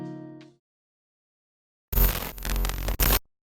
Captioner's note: electronic static